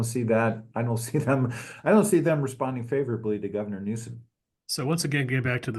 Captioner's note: laugh